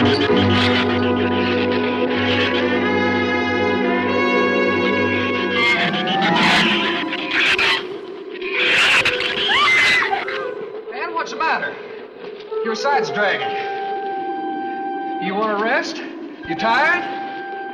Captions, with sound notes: (shrews chatter) (Ann screams) - Ann, what's the matter? Your side's dragging. You wanna rest? You tired?